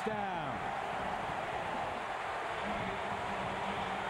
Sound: cheering, applause

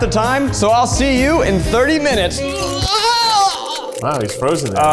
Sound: groans

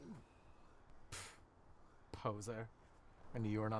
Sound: scoffs

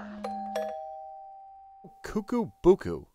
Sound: doorbell ringing

